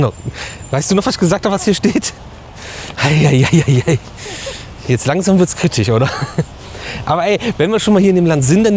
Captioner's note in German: gelächter